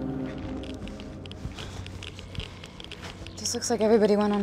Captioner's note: geiger counter clicking